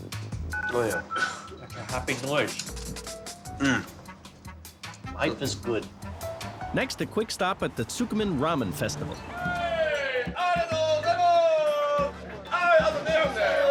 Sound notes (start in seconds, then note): 9.2 men shouting in Japanese